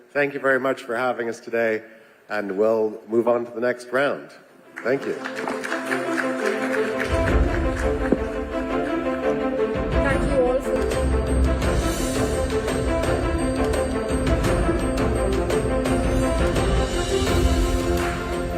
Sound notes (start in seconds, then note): 4.7 audience applauding; 5.9 dramatic music